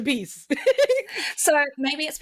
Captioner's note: laughs